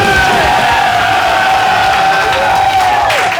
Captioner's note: cheers and applauses